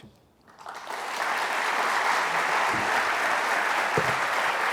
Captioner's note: audience applauding